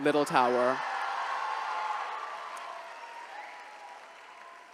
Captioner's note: attendees cheering